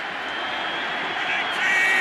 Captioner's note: cheering